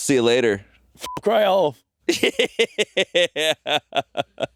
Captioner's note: beeping